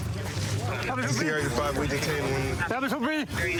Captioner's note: excited chatter